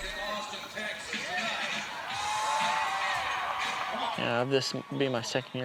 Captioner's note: commentator commenting